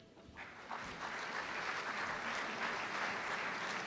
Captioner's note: applause